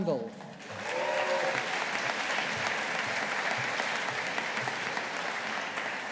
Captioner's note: audience applauding